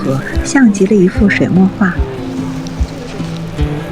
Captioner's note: slip